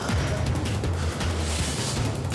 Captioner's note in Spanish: Quejidos